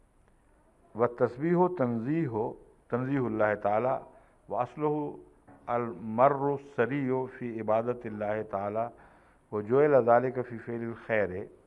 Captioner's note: Arabic